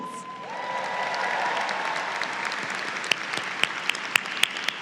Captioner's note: audience cheers